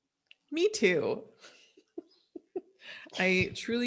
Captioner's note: laughs